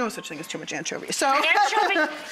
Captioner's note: laughing